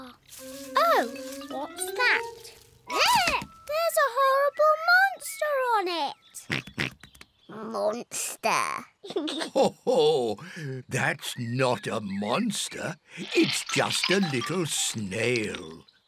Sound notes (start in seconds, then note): 6.0 oinks; 9.0 giggles; 9.1 laughs